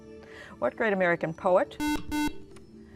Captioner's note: beeping